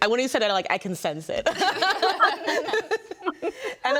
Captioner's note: group laughs